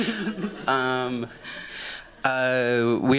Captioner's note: chuckling